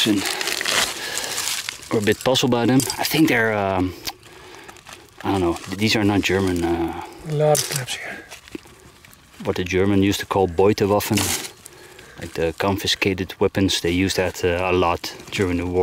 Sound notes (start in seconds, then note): 10.7 speaking German